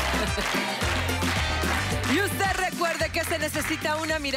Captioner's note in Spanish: Aplausos